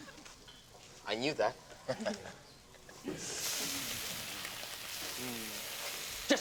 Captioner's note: chuckles